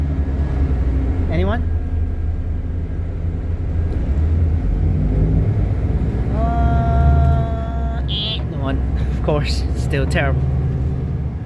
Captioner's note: denying sounds